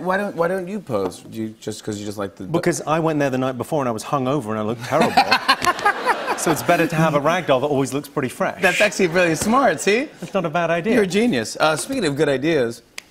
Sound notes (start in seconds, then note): 4.9 laughter